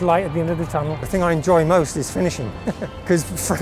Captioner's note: chuckles